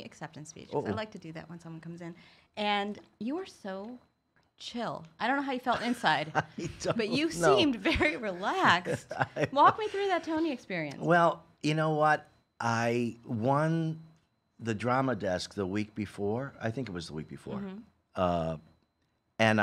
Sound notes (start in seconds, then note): 5.7 laughs